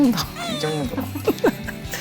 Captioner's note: about to cry